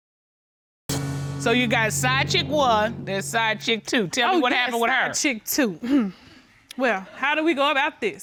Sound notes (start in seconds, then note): 5.4 clears throat